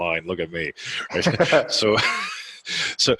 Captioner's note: laughing